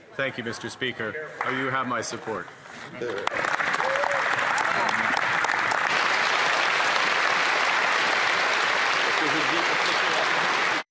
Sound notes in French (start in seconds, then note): 4.6 voix de l'interprète; 10.5 applaudissements